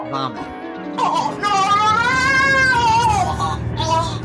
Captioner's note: Ziggs gagging